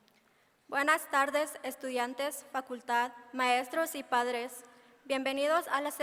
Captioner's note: speaking in foreign language